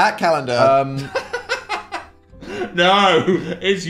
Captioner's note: Phil laughs